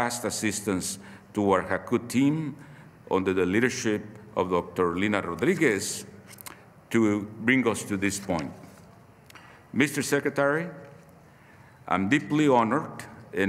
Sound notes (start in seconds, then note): none